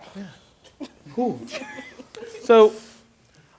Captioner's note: laughter